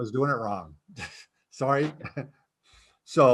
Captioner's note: chuckles